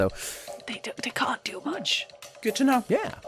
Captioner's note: whispering